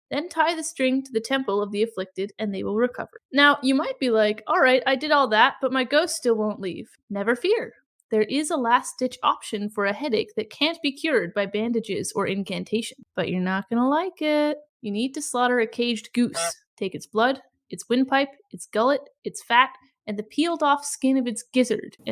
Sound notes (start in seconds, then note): 13.2 sing-songy; 16.4 goose honk